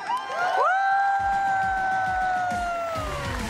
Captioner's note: cheering